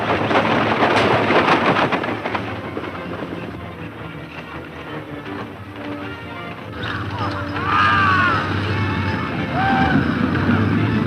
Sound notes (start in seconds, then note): 1.5 loud overlapping voices yelling at horses